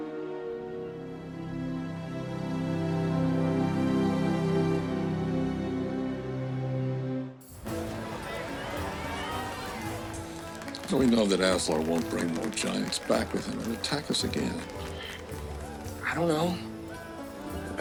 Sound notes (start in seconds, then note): 7.5 crowd cheering